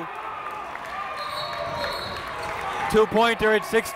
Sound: whistle

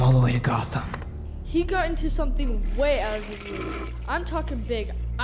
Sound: toilet flushes

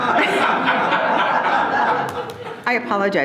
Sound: loud laughing

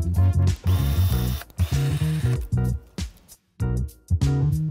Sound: pruner whirs

